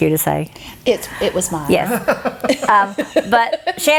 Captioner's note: chuckling